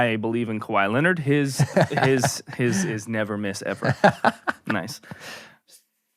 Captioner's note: laughing